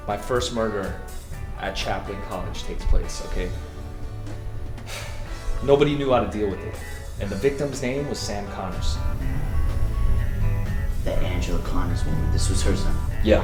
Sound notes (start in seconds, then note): 3.5 sighs